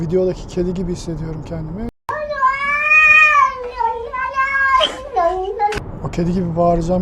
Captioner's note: cat voice screaming as if saying "I froze, Mom"